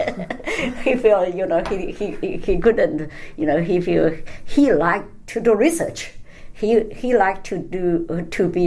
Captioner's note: laughs